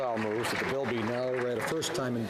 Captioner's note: some Applause